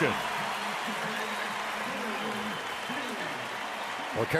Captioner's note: cheering